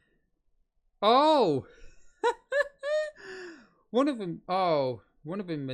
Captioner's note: chuckles